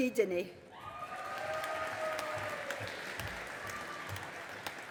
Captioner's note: audience applauding